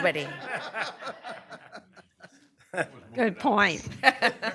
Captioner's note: laughter